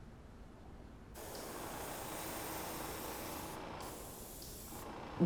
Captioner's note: airbrush hissing